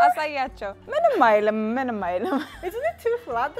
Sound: speaking Amharic

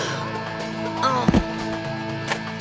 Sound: groans

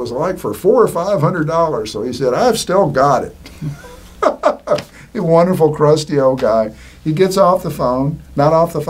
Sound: laughing

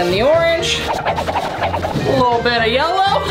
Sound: whirling sound

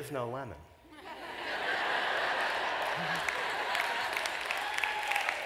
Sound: laughter

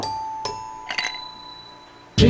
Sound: glass clanking

